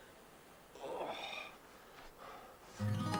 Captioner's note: gemidos